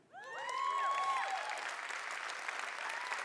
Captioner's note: applause